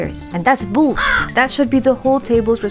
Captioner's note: caw